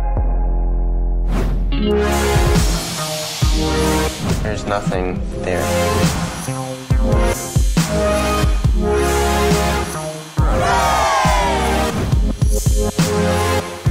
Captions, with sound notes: - There's nothing there. (cheers)